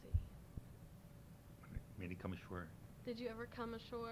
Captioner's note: pounding sound